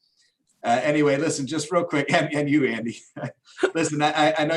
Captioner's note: laughs